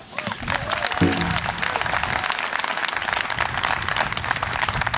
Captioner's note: audience applause and cheer